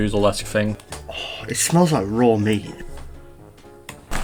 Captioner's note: sighs